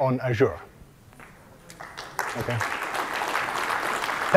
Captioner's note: applause